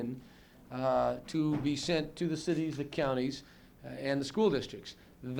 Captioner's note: clattering noise off camera